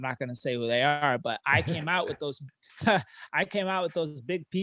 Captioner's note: chuckling